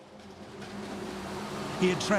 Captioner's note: dramatic music; train engine revving